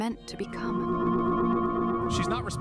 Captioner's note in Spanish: Pulso armónico masivo